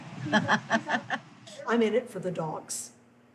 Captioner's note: laughs